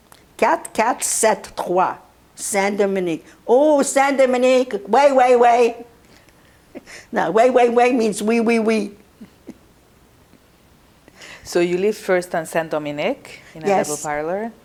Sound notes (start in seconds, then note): 0.3 french; 3.4 non-english; 8.5 french; 9.0 laughing